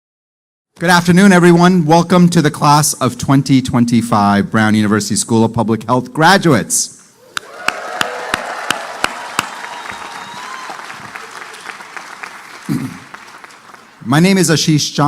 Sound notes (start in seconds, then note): 7.3 applause